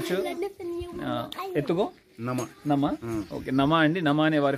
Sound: speaking in Foreign language

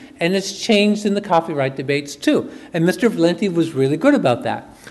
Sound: none

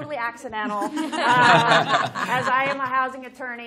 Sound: laughter

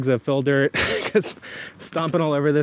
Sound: laughs

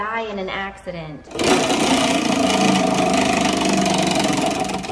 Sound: wheel turning

